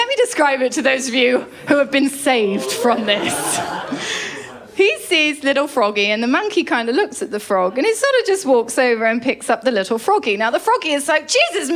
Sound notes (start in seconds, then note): 3.9 laughter